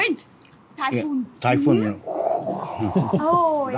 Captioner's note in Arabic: يصدر أصوات الرياح